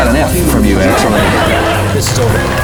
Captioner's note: audience laughing; audience clapping